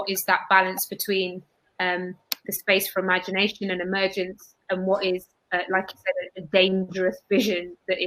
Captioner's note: erm